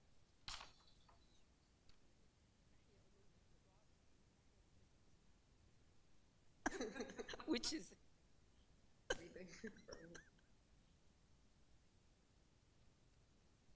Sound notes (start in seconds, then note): 6.7 laughing